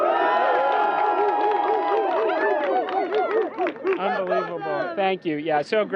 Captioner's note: cheers